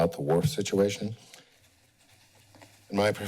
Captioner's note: pause